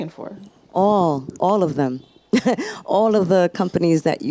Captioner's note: laughs